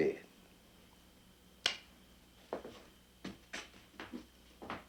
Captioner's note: kiss smacking